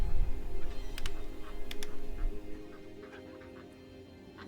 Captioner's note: gun cocking